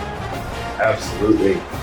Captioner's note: crowd Noises